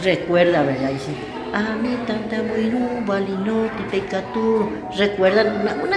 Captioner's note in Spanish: En idioma Guaraní